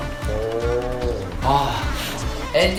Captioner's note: sigh